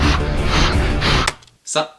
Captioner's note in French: souffle comme un boeuf